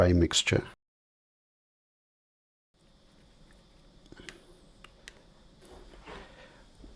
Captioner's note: silence